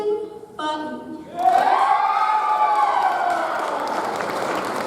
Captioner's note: audience applauds